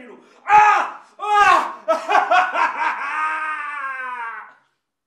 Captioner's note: screams in agony